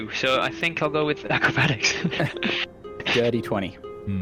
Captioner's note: laughs